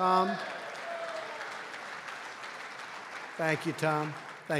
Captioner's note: applause